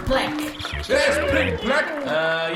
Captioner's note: polite applause; sighing